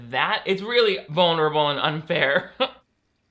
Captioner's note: laughs